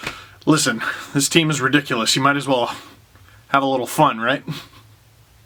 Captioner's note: laugh